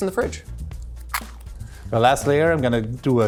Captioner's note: biscuit crunches